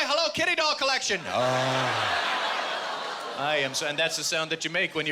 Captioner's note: audience groaning